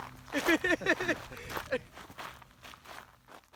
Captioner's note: laughter